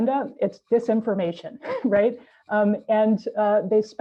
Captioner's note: chuckles